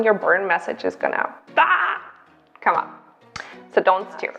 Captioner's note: screams